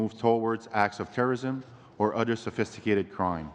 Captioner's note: speaking english